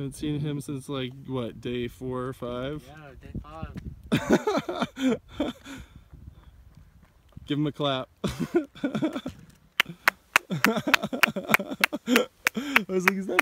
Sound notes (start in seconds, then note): 4.1 laughter; 8.7 clapping; 10.4 laughter